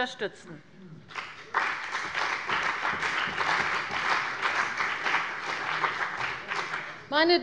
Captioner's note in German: Beifall bei der CDU und dem BÜNDNIS 90/DIE GRÜNEN